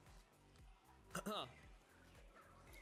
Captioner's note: cough cough